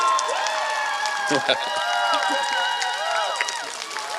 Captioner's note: applause